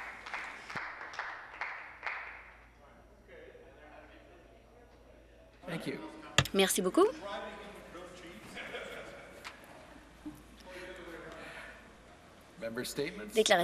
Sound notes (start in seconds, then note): 0.0 some Applause